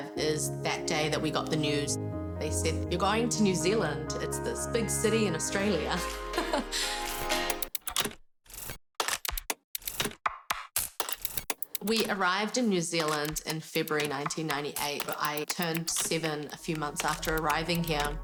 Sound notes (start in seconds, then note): 5.8 laughs